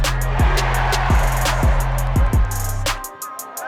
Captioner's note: crowd cheers